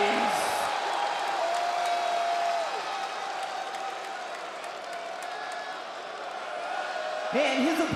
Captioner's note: applause